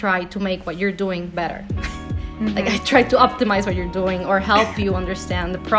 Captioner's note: laugh